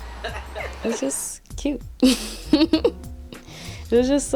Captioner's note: giggling